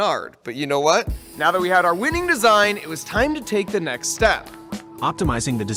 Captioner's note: spray paint hissing